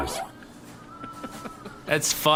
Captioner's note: Pleck laughing quietly